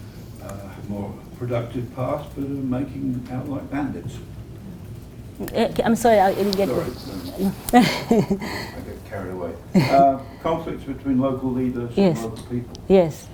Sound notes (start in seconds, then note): 6.4 laugh